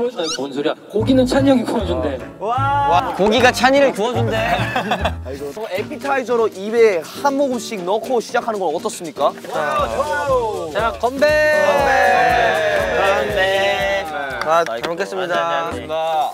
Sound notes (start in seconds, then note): 11.2 Bibimmyeon cheers; 11.4 cheers